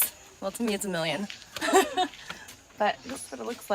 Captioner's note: chuckles